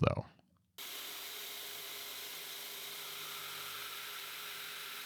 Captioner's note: machine whirring